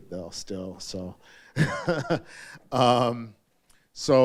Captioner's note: laughs